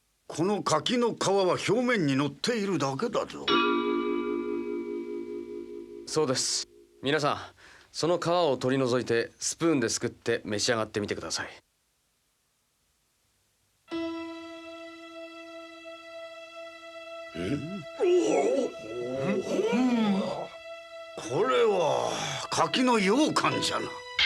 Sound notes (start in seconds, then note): 17.4 gasps